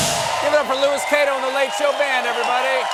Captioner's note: cheers and applause